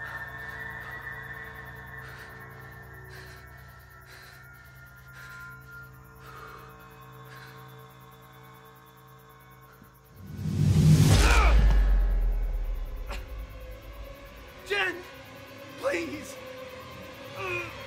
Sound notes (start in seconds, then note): 2.0 man panting; 10.3 dramatic music; 11.2 man groans; 17.4 groans